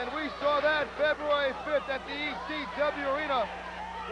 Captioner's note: crowd chatter